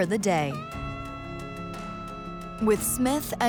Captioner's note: horn blowing